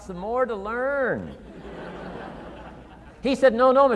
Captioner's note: audience laughing